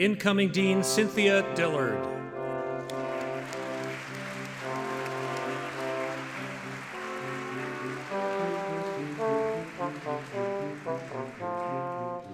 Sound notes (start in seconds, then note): 6.0 audience clapping